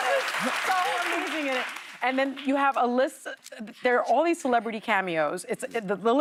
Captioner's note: cheers and applause